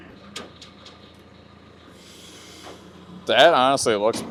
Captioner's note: motor running